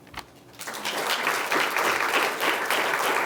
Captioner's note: applause